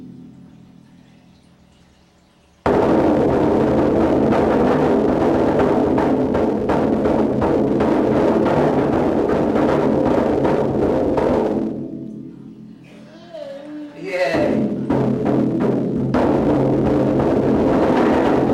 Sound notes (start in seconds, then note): 0.2 banging on drum; 12.8 child babbling; 14.2 banging on drum